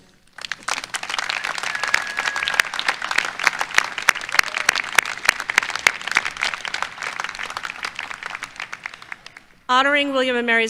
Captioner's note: applause